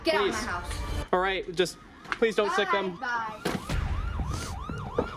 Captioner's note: police siren noise